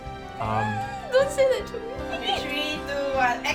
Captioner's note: giggling